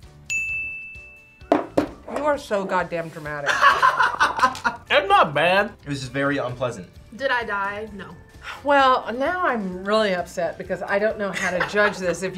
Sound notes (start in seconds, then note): 0.2 bell rings; 3.5 laughs